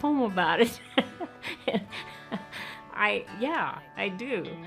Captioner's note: laughs